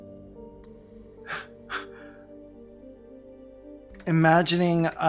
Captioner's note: incredulous breathy laugh